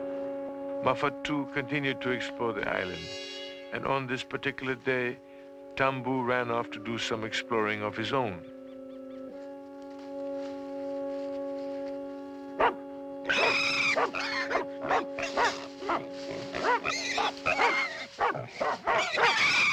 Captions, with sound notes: Mafatu continued to explore the island, and on this particular day, Tambu ran off to do some exploring of his own. - [barking] - [squealing]